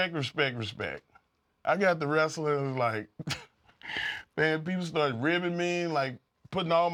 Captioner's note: laugh